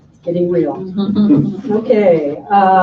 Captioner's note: laughing